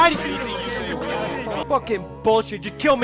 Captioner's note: everyone talks